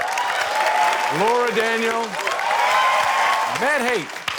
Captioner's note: cheering, applause